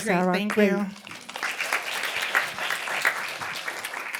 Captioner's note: applause